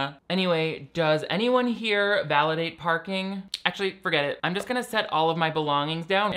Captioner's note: none